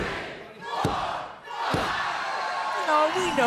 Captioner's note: crowd cheering